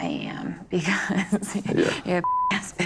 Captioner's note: laughing